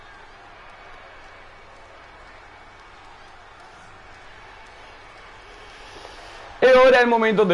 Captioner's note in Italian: Applauso